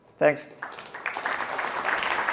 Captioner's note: applause